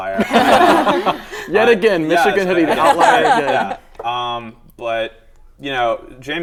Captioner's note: laughter